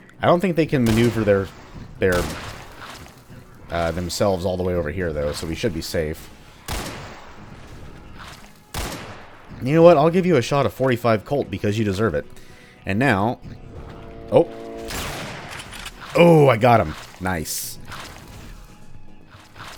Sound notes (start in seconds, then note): 13.4 chargeup sound; 14.8 railgun shot